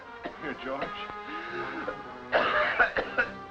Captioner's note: coughing